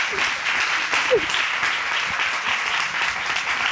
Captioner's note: crying